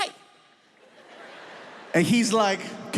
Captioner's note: audience laughs